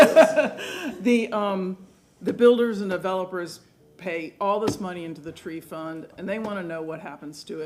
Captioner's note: laughter